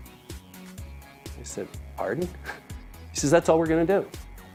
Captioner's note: chuckles